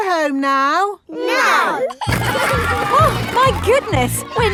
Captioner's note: giggling